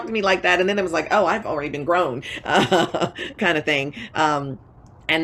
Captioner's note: laughs